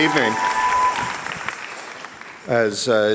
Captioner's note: applause and cheers